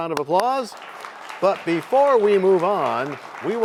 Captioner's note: applause